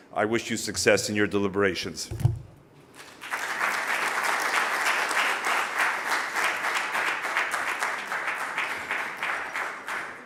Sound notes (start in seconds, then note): 3.1 audience applause